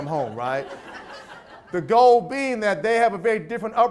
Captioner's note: audience laughs